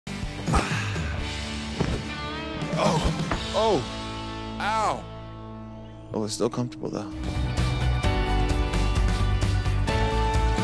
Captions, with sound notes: (soft thudding sound) - Oh, ow, oh it's still comfortable though. (upbeat piano music)